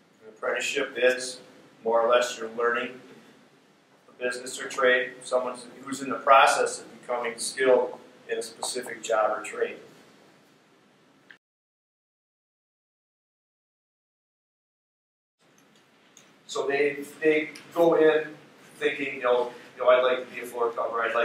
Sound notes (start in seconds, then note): 11.3 silence